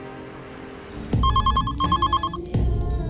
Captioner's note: phone rings